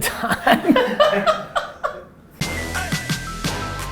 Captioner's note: laughter; hip hop music